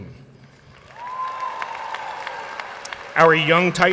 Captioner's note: audience cheering and applauding